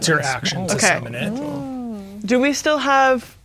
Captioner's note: speaking quietly